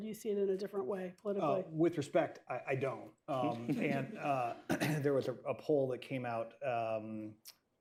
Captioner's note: laughter